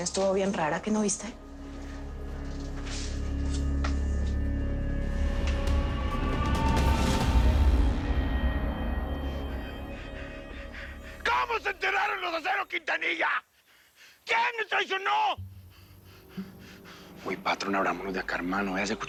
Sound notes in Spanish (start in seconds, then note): 10.8 Respiración agitada